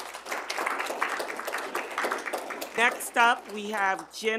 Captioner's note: audience applauding